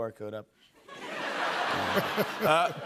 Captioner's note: laughter